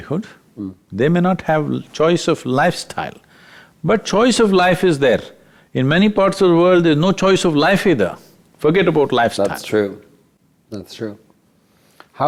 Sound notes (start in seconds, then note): none